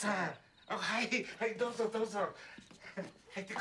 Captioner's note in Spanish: hablando japonés